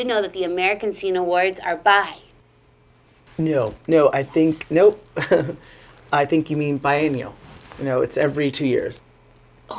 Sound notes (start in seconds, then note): 5.1 giggling nervously